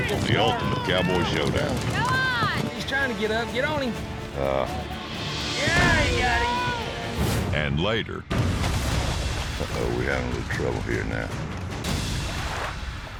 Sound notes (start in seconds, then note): 1.9 all shouting; 5.9 thuds down; 8.5 splashing